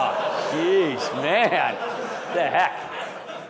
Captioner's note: audience laughing